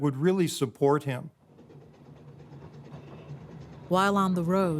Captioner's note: train rumbling